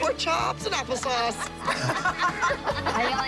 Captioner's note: moms laughing